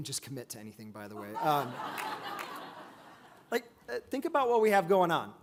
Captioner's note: audience laughs